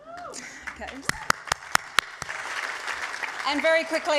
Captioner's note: applause